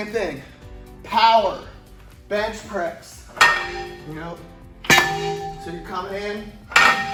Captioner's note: metal clunking